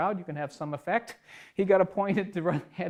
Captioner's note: laughs